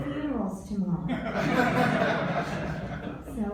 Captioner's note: laughter